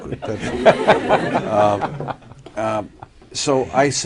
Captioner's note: laughter